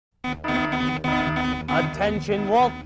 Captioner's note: alarm blaring